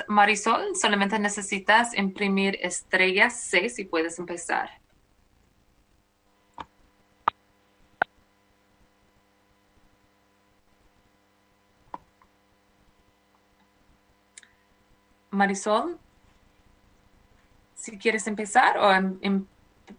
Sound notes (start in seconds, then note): 7.0 speaking spanish